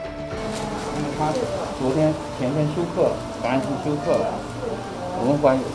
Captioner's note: speaking on foreign language